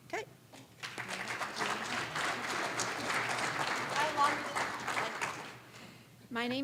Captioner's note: applause